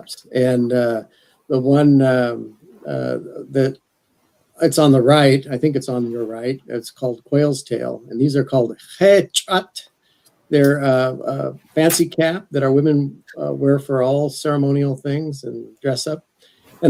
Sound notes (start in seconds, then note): 9.2 speaks athabaskan